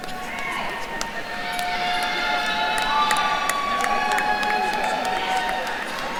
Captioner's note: attendees cheering and applauding